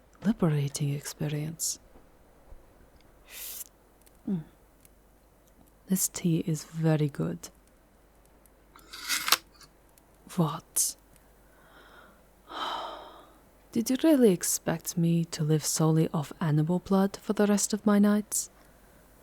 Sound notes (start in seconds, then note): 3.3 sipping; 12.5 sighing disappointingly